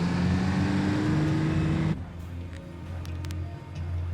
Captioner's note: truck engine rumbles